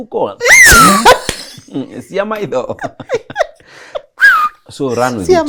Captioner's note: whistles